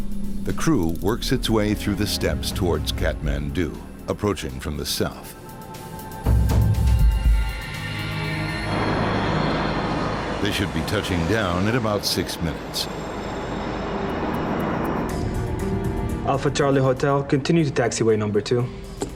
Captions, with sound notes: The crew works its way through the steps towards Kathmandu, approaching from the South. (sinister music) (airplane engine roaring) They should be touching down in about six minutes. (airplane engine roaring) - Alpha Charlie Hotel, continue to taxiway number two.